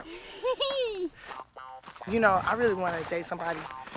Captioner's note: laughing